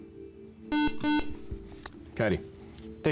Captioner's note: buzzer